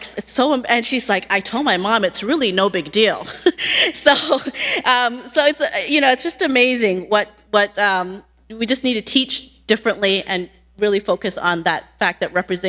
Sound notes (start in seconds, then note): 3.0 laughing